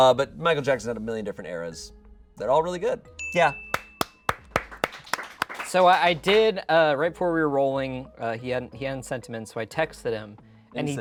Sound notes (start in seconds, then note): 3.2 bell dings; 3.7 audience applauding